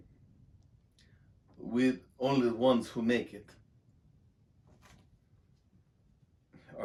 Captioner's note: Russian accent